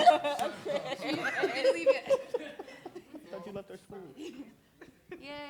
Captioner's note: chatter